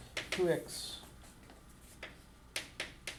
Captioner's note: voiceover